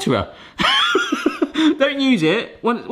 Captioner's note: laughs